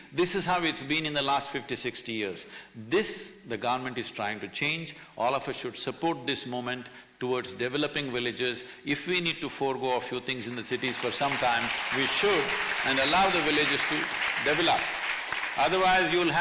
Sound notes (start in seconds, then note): 10.5 applause